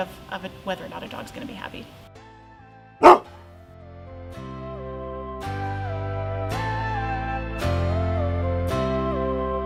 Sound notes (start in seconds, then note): 3.0 large dog barks; 4.5 gentle music